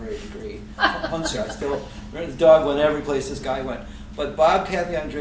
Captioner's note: laughter